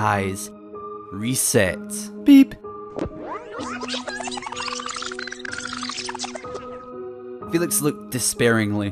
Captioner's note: beep and Rewinding sounds